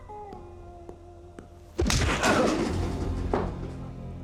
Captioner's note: punch, groan